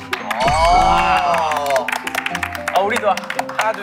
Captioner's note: applaud